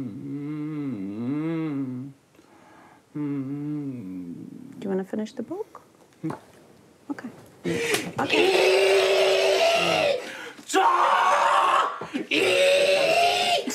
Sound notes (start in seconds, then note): 8.7 screams